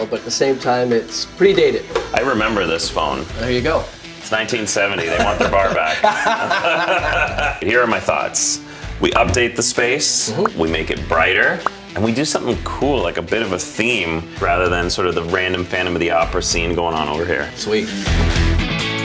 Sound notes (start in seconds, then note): 4.9 laughter; 18.8 upbeat music